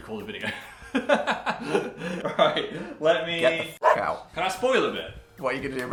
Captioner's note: laughs